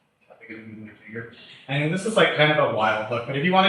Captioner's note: faintly speaks